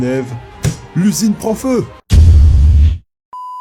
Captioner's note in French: clap